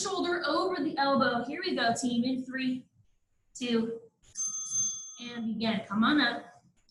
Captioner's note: ding, ding